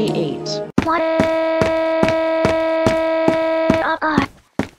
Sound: crying

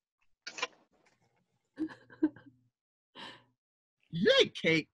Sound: laughter

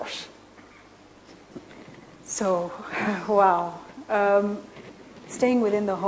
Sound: laughs

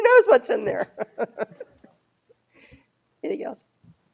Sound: laughs

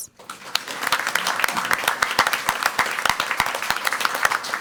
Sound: crowd clapping

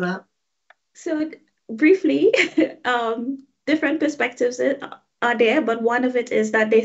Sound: chuckling

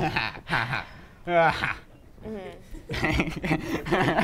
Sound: snickering

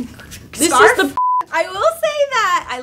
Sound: beep

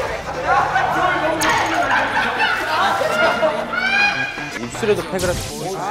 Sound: high frequency laughter making some great memories

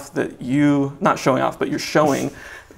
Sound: laughs

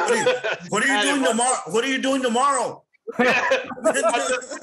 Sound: laughter

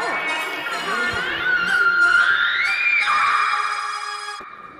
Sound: screaming intensifies

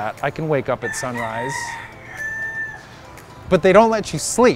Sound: rooster crowing

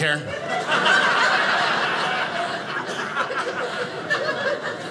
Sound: audience laughing

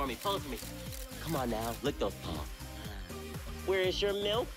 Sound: camera shutter clicking

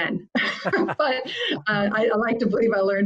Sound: laughing

